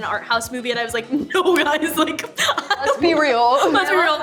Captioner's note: laughs